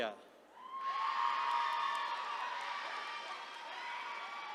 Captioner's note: attendees cheering